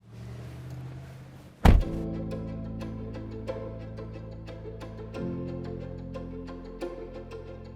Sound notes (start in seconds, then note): 1.6 door clunks; 1.8 soft music